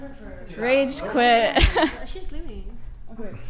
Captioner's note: laughs